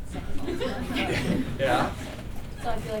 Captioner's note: laughter